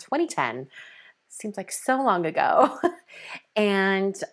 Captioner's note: chuckles